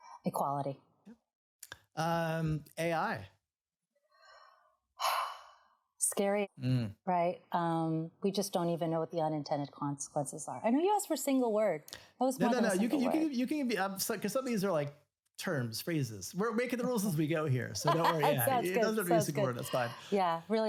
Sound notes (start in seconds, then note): 6.6 sighs; 17.9 laughs